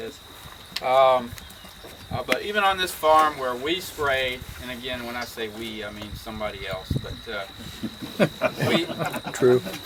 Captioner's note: crowd laughing